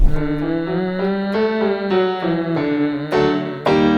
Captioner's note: humming